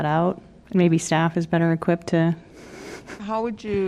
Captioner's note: laughter